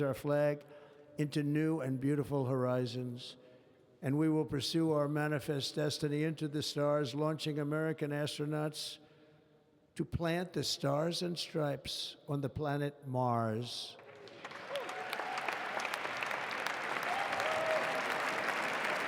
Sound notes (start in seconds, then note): 14.0 applause